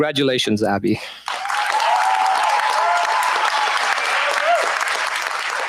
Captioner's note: cheers, applause